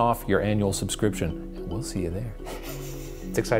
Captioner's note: strange laugh